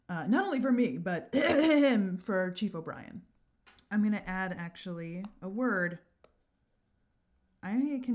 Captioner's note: ahemhemhem